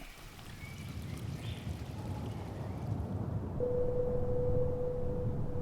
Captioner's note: birds continue chirping